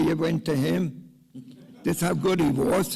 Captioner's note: laughs